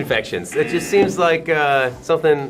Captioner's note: buzzer